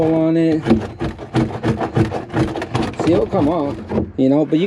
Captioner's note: scraper scraping